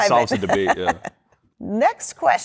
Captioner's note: laughter